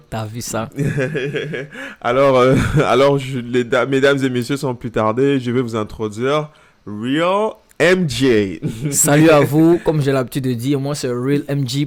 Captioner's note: laughs